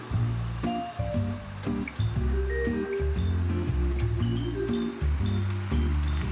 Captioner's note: meat sizzling; upbeat music